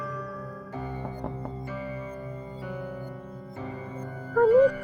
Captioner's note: knock, knock, knock